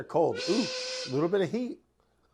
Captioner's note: train blowing sound effect